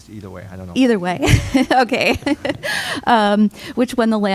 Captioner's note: laughter